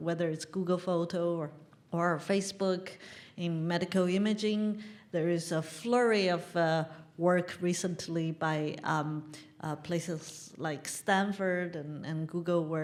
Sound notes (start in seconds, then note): none